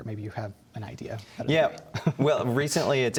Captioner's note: chuckles